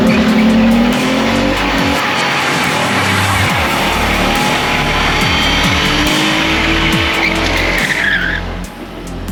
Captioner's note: tires squeel